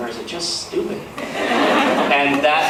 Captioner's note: laughs